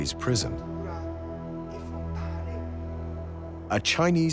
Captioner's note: speaking Italian